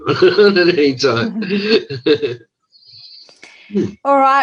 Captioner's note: laughing